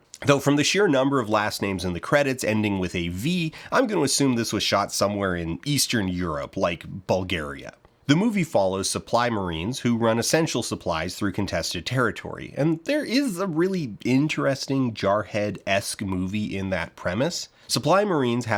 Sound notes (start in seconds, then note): none